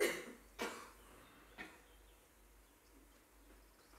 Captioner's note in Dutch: stilte